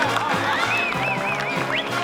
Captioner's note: cheering